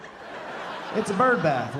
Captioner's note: audience laughing